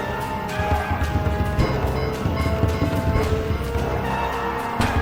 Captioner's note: zombies growling